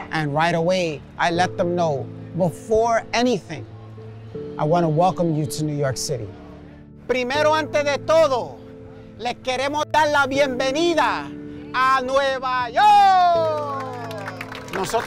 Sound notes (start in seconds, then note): 7.0 speaking Spanish; 13.0 immigrants clapping; 14.8 speaking Spanish